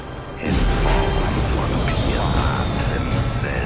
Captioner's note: fire explosion